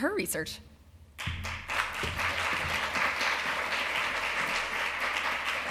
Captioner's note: applause